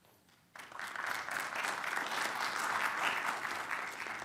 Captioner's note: audience applauding